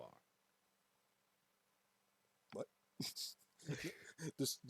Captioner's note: chuckles